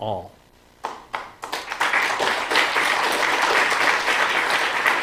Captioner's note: applause